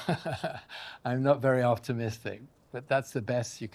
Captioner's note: laughs